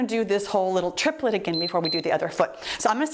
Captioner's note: timer beeps